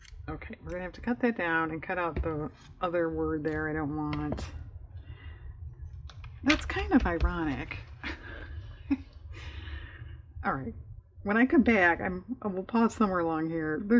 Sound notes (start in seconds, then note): 7.6 laughs